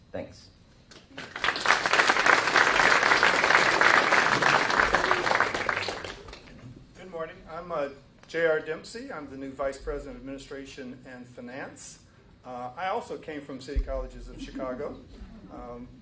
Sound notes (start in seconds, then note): 8.3 applause